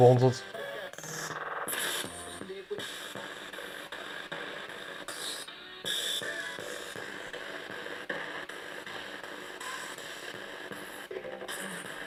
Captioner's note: sound of the Spirit Box in the background